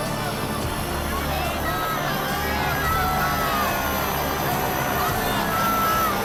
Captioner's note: group speaking in foreign language